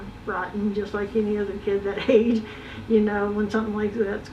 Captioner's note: giggles